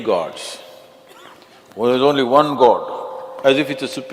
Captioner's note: in mocking voice